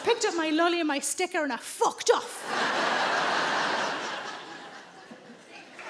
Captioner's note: audience laughing